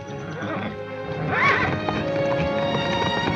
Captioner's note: horse whinnies